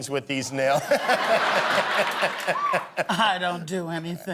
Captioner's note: laughter